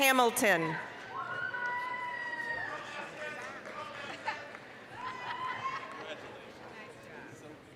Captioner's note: applause, cheering